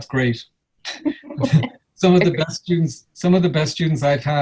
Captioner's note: laughs